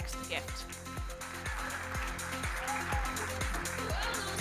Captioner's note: audience applauding